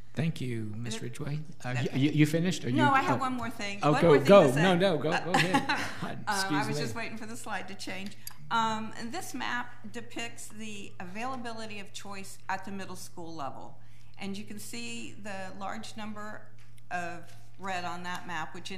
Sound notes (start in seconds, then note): 5.3 laughing